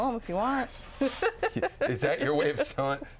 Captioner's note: laughing